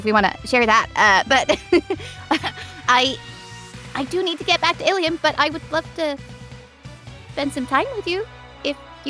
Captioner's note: chuckles